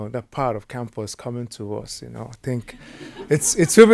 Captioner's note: audience laughing